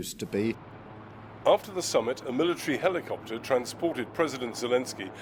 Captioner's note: voice-over